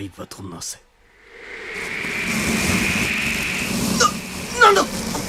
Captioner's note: SFX: wind getting stronger